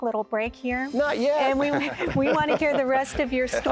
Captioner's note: laughter